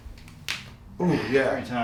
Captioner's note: knee cracks